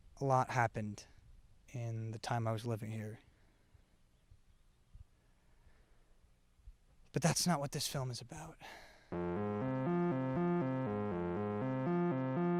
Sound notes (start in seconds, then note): 9.1 sighs; 9.1 dark synth music